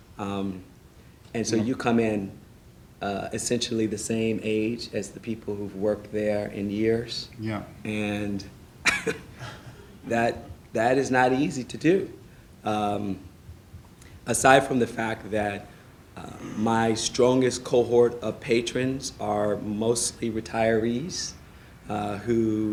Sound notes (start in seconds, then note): 8.8 laughing